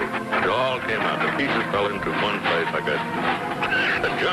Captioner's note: coughs